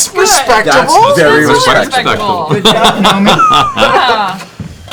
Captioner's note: approving murmurs